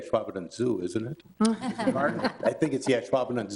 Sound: people laughing

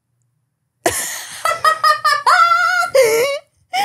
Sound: laughing

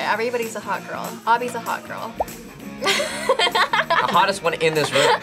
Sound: laughs

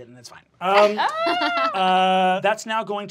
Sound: laughing

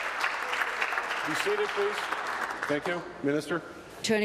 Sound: applause

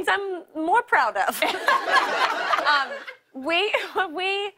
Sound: laughter

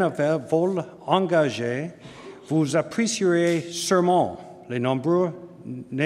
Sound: speaking french

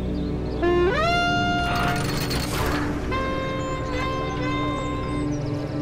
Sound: horn blowing

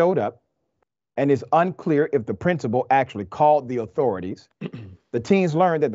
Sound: cough

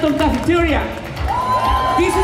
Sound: cheers

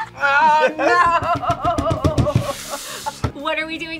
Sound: laughs

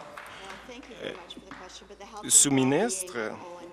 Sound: applause

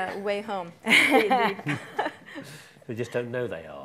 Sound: laughing loudly

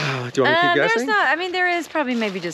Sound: sighing tiredly

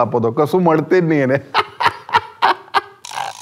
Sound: laughing

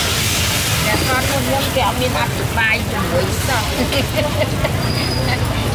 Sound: laughing

